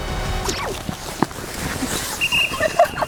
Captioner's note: Swish